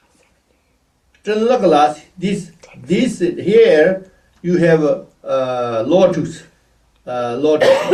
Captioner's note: tibetan